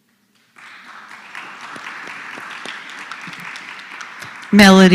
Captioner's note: applause